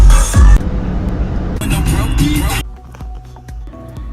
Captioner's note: plane engines; upbeat music